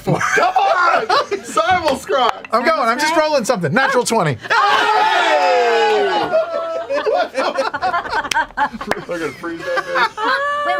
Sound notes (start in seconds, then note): 7.1 cheering; 8.5 laughter